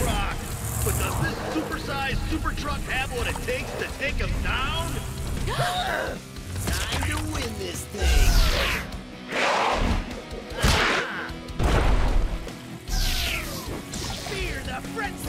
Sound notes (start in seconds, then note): 5.0 all gasping; 9.3 roaring; 10.0 smashing